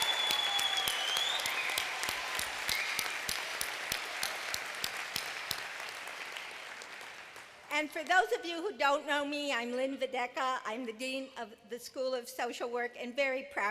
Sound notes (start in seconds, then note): 2.2 applause; 2.4 cheers and applause